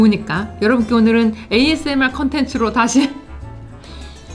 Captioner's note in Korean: 웃음